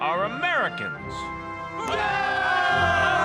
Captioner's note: cheering